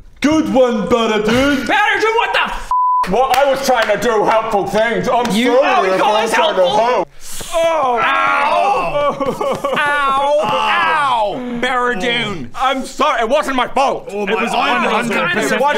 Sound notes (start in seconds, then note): 7.5 pitiful cry